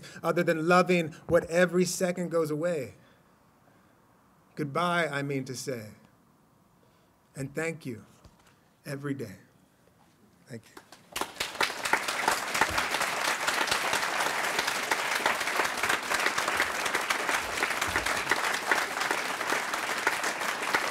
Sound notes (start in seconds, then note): 11.3 applause